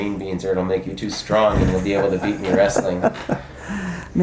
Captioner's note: laugh